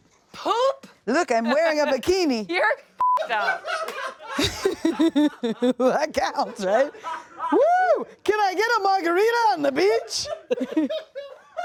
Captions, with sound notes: - Poop? - Look, I'm wearing a bikini. (everyone laughs) - You're (beep) up. - That counts, right? Woo. Can I get a margarita on the beach?